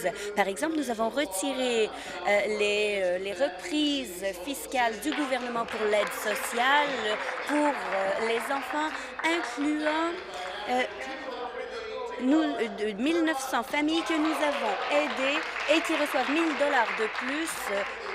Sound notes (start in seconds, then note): 9.7 applause; 17.8 applause